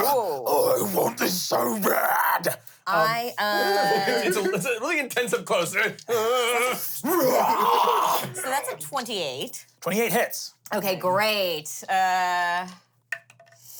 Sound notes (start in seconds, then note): 0.0 grunts; 6.1 growls